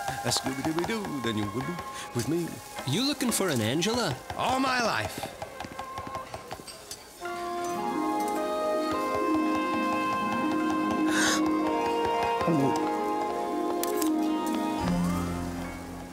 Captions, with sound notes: A-scoobie-doobie-doo... a-dooba-do... with me... You looking for an Angela? All my life. (gasps) (gulps)